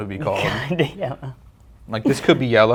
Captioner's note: hearty laughing